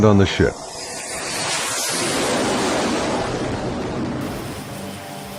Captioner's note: jet engines